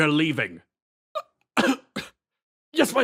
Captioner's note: Pained Tartre Noises